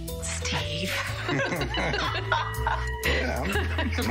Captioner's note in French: laughter